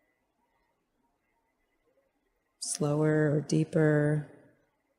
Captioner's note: silence